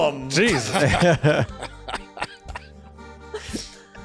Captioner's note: laughter